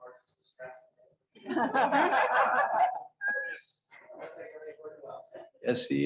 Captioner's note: laughter